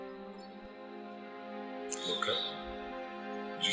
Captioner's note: bird screeches